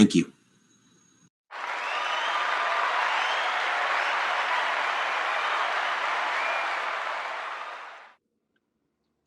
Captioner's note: cheers and Applause